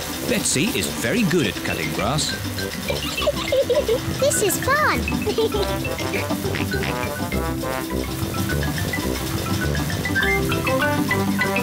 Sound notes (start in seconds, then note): 5.1 giggling; 5.6 laughs